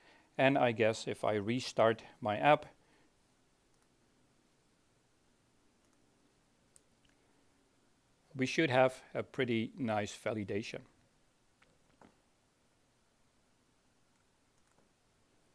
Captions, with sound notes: And I guess if I restart my app, (keyboard clicking) we should have a pretty nice validation.